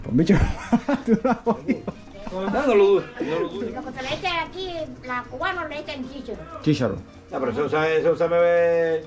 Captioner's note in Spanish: risas